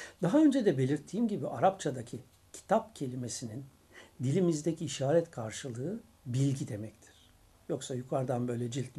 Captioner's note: Turkish